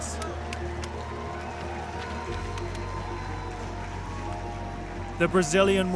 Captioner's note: cheers